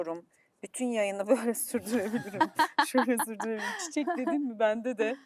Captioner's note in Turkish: kahkaha